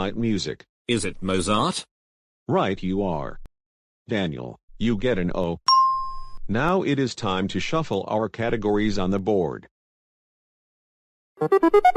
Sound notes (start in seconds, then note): 5.6 ding